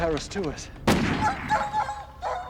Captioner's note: dog whimpering